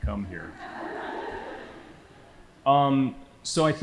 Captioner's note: audience laughing